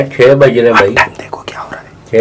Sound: whispers

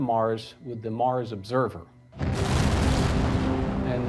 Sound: rocket launching

